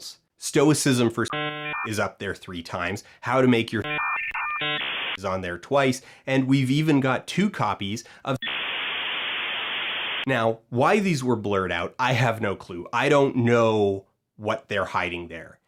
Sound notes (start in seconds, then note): 1.0 dial up noise; 8.4 long dial up noise